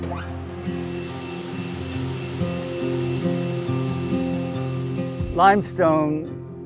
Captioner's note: saw turns on